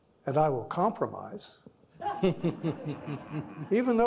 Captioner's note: all laughing